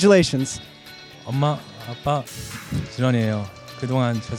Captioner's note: non-english speech